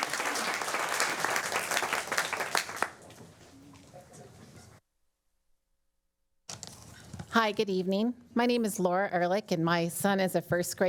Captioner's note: applause